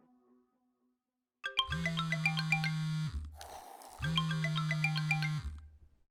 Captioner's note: cellphone ringing and buzzing